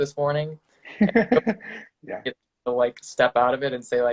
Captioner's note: laughing